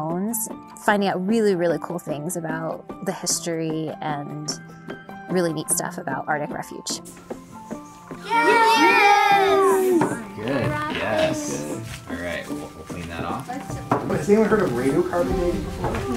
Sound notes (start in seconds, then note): 8.2 students cheering